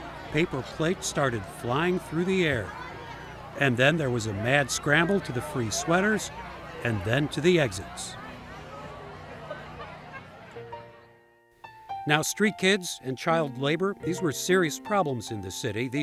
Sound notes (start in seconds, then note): 2.5 crowd chattering; 10.5 playful piano music